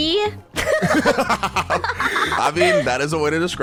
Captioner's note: everyone laughing